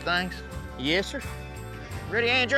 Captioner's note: none